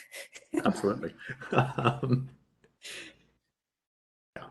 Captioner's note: laughing